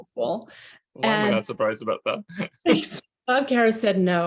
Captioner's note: chuckles